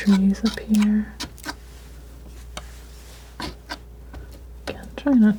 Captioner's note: scraping